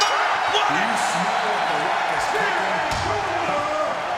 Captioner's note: crowd cheers